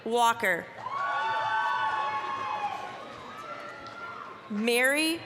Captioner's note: applause, cheering